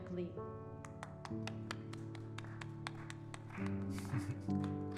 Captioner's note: clapping; chuckles